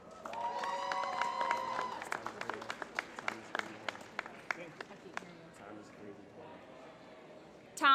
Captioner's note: applause